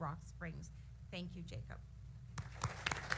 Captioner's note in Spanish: aplausos